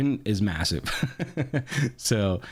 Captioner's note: laughing